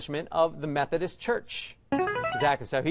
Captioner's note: player buzzer